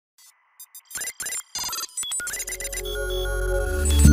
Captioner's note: robot beeping; bright music